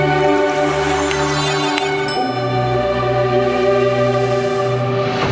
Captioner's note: logo whooshing